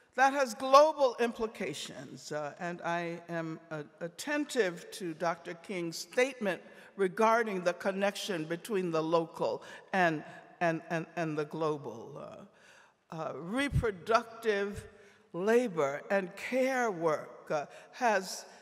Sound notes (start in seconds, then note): none